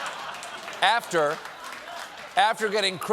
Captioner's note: laughter; applause